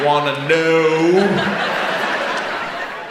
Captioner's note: audience laughs